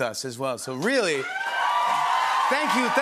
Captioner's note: cheers and applause